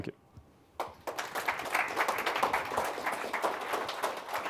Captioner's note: audience applauds